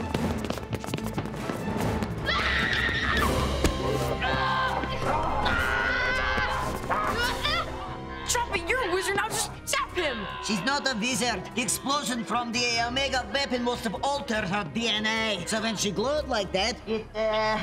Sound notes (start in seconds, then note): 2.2 screaming